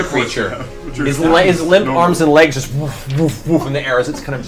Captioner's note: thumping